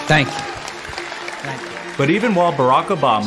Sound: audience clapping

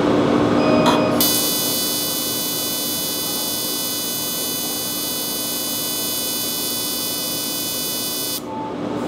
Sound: laser firing

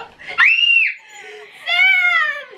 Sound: screams

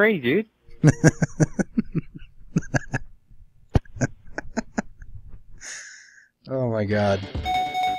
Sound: continues laughing

